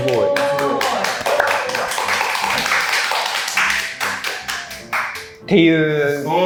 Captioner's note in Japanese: 拍手